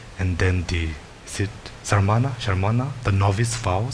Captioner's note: speaks in foreign language